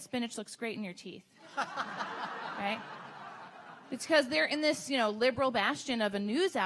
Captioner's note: audience Laughing